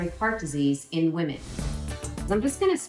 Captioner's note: air whooshes